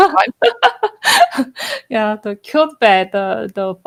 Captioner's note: laugh